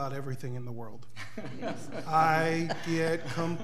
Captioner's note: laughing